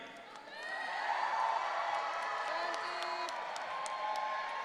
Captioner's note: audience cheering